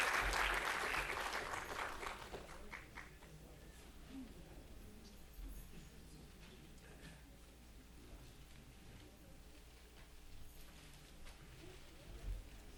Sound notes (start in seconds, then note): 3.9 attendees chattering